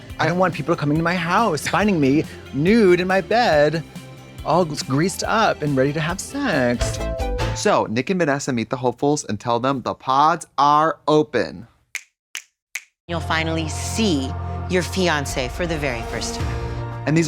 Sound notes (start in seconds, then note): 6.9 synth bop; 11.8 Katya snaps